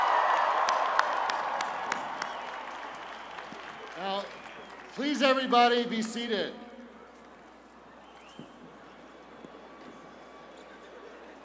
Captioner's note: cheers and applause